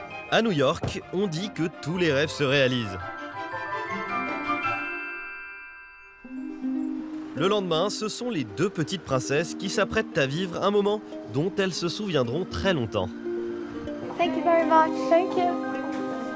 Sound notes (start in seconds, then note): 13.9 in English